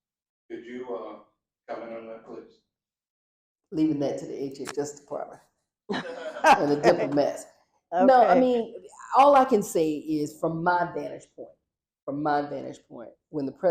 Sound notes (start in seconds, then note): 5.9 laughter